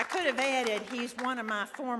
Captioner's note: applause